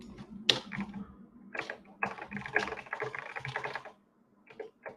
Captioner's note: keyboard clacking